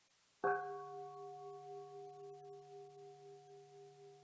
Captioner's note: bell dinging